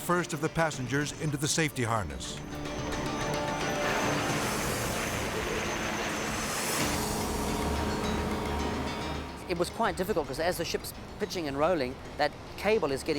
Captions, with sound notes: of the passengers into the safety harness. (tense music) (helicopter blades whirring) - It was quite difficult, 'cause as the ship's pitching and rolling, that cable is getting